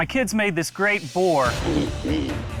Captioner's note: oinking